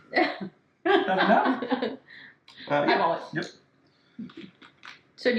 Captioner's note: laughing